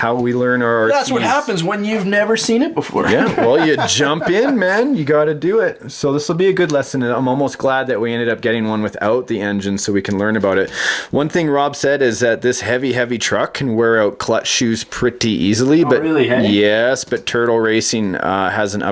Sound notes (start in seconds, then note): 0.1 voiceover; 3.3 voiceover; 15.9 voiceover